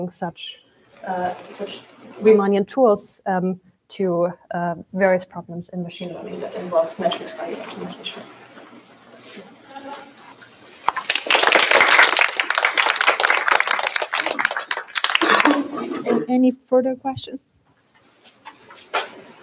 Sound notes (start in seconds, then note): 10.8 applause